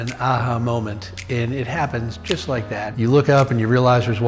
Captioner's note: fingers snapping